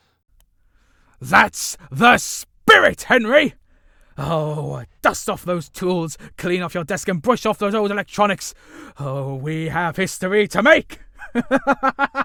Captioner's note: excited howling and laughter